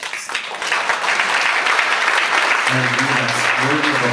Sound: audience applauds

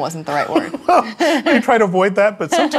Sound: laughing

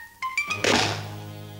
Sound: slam

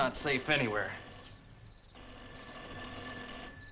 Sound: phone ringing

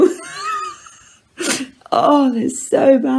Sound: laughs

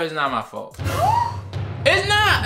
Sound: gasps

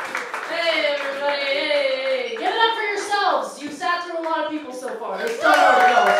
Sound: cheers

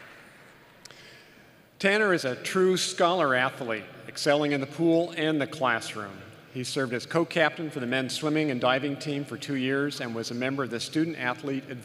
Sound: applause

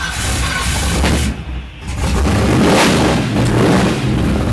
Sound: engine roaring

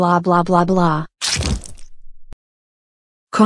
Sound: squashing noise

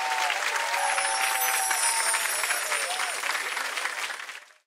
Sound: twinkling sound-effect

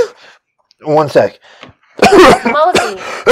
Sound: coughing

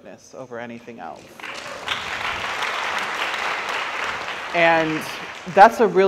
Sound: audience applauds

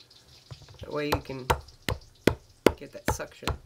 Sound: thumping

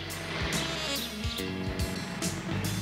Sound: none

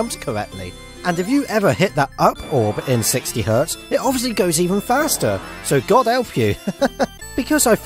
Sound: laughs

